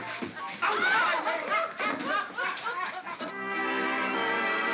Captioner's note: Ollie laughs; commotion & laughter; jovial orchestral music